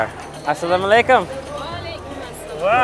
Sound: speaking foreign language

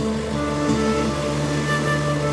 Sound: sewing machines sound

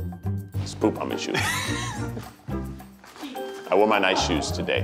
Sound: laughing

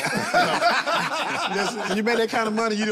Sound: all laugh

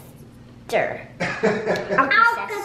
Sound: laughs

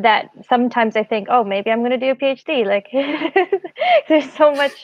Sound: laughs

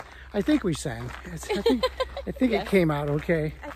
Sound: laughs

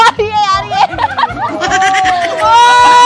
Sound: loughing

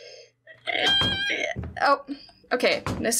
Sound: whimpers Pathetically

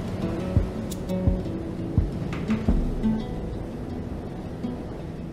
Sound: waves gently break on beach

